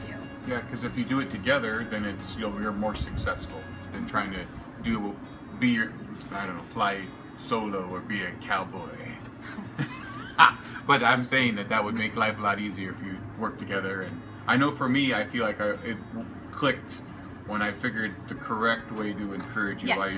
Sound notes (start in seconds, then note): 9.4 laughs